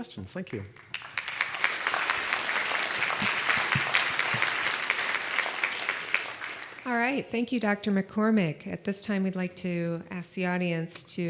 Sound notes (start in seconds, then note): 0.7 applause